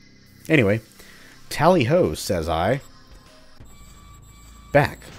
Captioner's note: gate squeaks